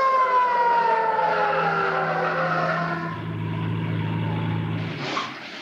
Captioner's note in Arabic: صافرة الإنذار تدوي; اصوات صرير الاطارات